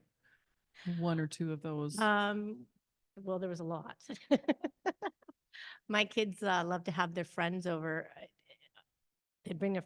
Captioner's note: chuckles